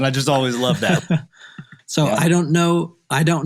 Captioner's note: laughing